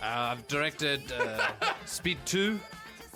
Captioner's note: hahaha